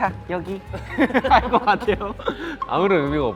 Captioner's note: dumbfounded laughing sound